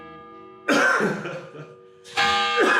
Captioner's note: clocktower bell sounds; interviewer coughs and laughs; clocktower bell sounds